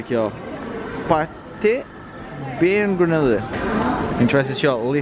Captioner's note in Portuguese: balbuciando